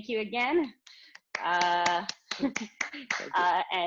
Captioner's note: applause